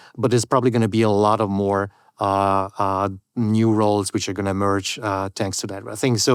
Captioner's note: none